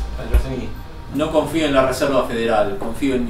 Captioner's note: man's voice; in Spanish